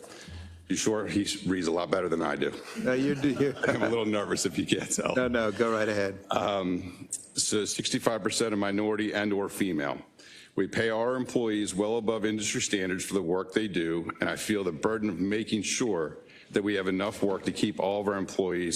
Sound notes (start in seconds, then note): 4.7 laugh